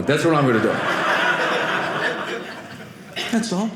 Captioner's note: audience laughing